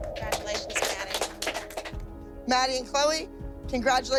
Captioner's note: clapping